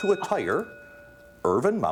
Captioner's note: ding